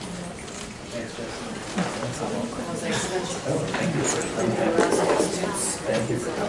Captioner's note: background chatter